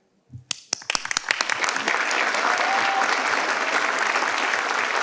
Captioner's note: participants clap